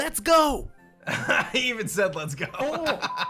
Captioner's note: chuckles